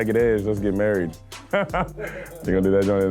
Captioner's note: laughing